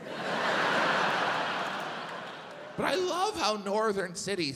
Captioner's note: audience laughs